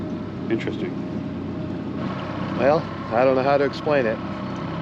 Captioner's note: boat engine idling